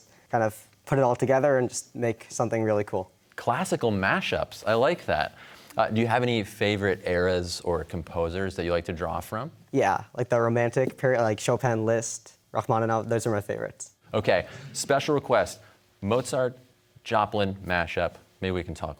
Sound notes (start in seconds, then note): none